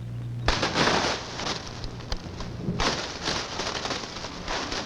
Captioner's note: crashing